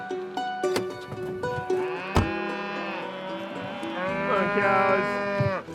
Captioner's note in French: meuglements